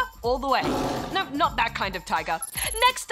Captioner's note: roars